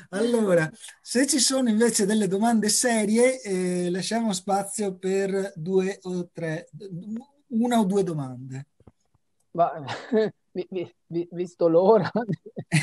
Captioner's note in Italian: risate